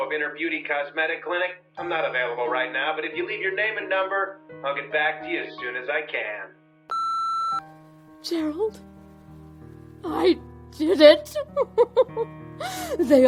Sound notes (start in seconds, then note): 6.9 phone beeps; 11.3 laughs